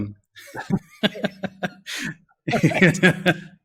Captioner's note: both laugh